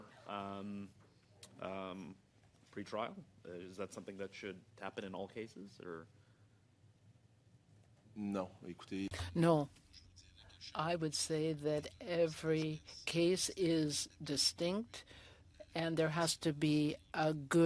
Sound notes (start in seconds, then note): 14.5 speaking French